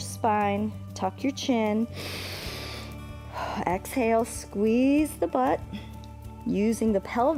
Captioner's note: inhales